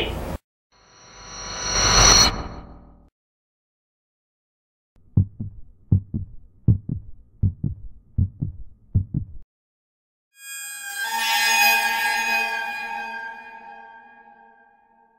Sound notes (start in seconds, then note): 0.0 suspenseful sound; 5.0 heart beat; 9.0 scary sound